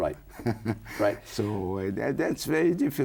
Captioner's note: laughs